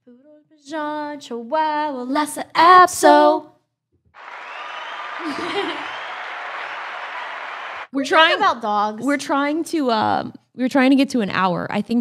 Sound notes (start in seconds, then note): 4.1 crowd cheering; 5.2 both laughing